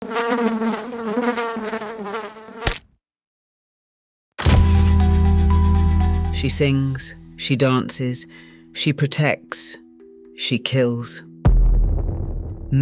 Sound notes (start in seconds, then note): 0.0 fly buzzing; 2.5 fly splatting; 4.4 suspenseful music